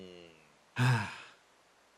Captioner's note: Etete Sigh